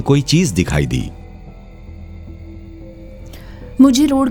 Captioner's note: gasps